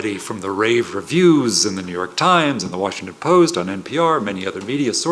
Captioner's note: none